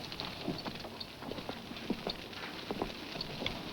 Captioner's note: fire crackling